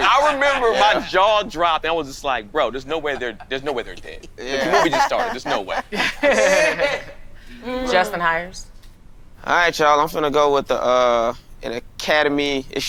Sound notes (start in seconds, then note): 6.2 people laughing